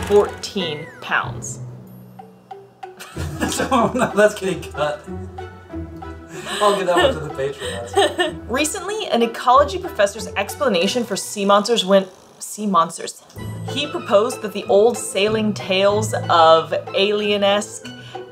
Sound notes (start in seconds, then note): 1.8 background music; 3.0 laughing; 5.0 background music; 6.3 laughing